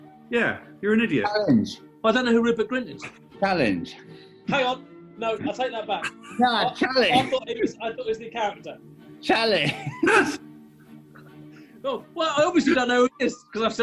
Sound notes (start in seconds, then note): 5.9 giggling; 9.6 laughter